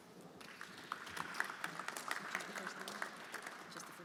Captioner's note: everyone applauding